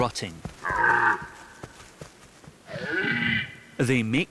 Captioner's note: red deer calling